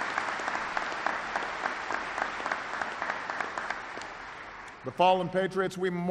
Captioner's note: applause